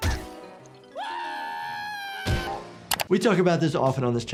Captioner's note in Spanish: Snuggles grita